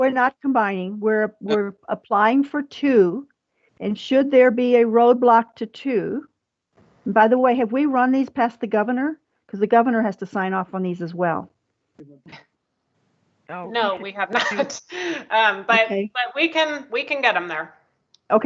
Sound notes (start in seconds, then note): 14.3 chuckles